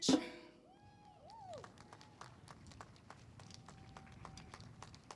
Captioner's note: audience applauds